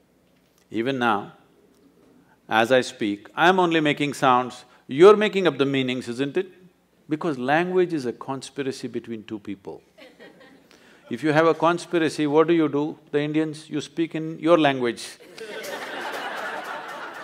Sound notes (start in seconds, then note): 9.9 few laugh; 15.2 laughter